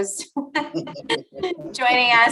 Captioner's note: laughter